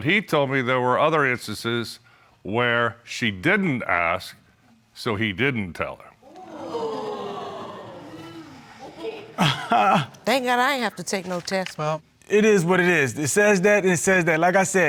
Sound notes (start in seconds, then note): 6.2 audience exclaiming; 9.6 chuckles